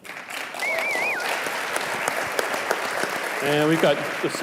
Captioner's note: audience clapping